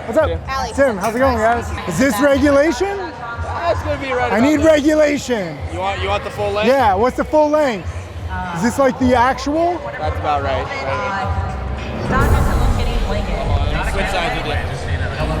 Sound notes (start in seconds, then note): 11.7 murmurs; 11.8 dramatic drum roll; 15.2 announcements over speakers